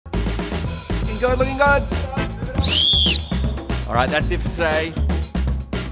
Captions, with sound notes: Looking good, looking good! [whistle] Alright that's it for today.